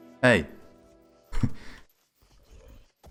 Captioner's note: chuckles